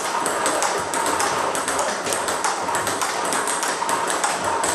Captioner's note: ball ping pong hitting continues